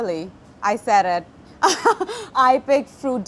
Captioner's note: chuckles